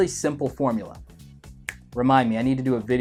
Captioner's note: finger snapping